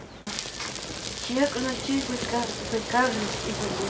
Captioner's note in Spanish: hablando en idioma K'iche'